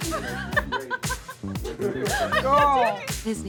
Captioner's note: laughing